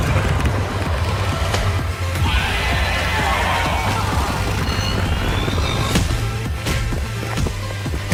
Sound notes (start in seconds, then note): 2.0 scream; 3.3 angry screaming